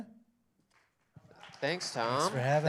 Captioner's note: applause